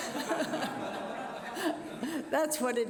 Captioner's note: laughter